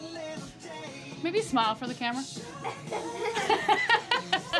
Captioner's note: chatter